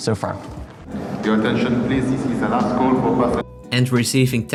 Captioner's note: announcement call